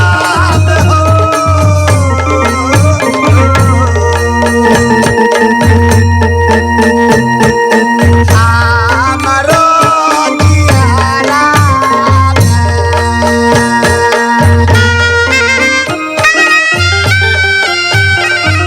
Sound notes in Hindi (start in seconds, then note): 8.6 घंटी की आवाज़